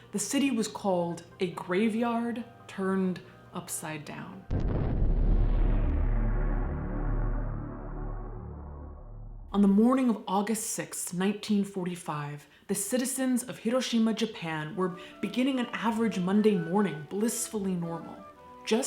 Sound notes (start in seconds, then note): 4.5 bomb exploding; 4.6 dramatic sting